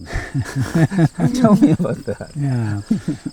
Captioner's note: laughing